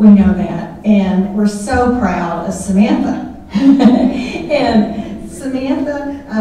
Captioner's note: laughing